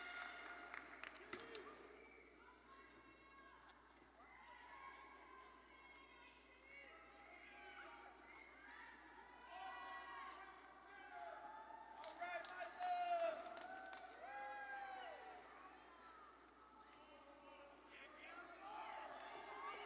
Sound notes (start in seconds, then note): 4.2 ambient chatter; 9.0 audience members shouting faintly